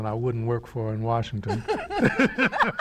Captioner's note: laughter